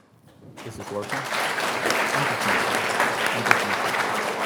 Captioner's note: audience applauds